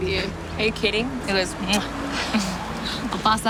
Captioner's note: kiss